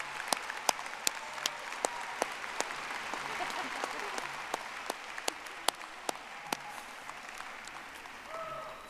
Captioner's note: audience applauding